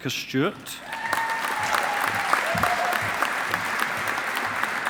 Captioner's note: audience applauding